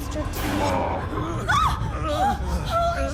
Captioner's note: groans, gasps; grunting